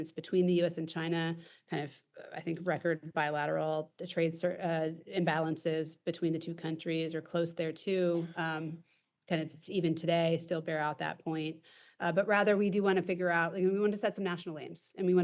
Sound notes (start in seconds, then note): none